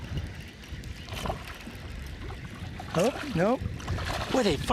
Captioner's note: splashing